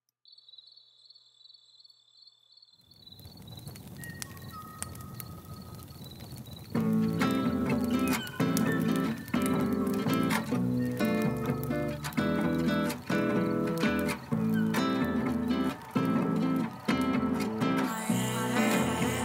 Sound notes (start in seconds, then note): 0.2 crickets chirping; 3.0 birdsong; 3.9 fire crackling